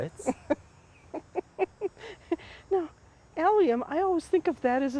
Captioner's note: laughs